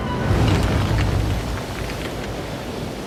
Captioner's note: sound of ocean